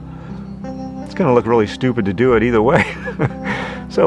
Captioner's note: laughs